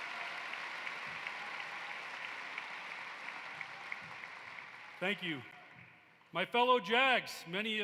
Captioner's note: applause